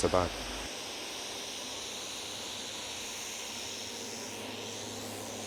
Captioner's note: airplane engine whirring